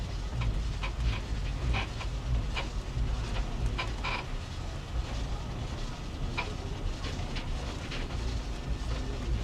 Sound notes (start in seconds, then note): 2.7 tram creaks